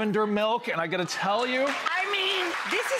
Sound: applause

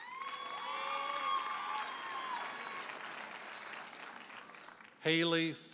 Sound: audience hollers and applauds

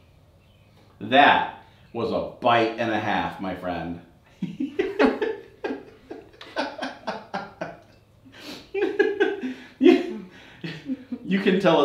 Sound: laughs

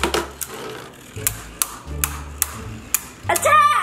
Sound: knocking noises

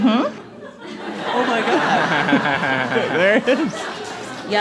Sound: laughter

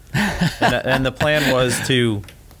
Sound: laughs

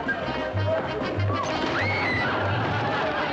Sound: screams

